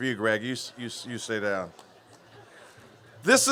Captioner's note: laughter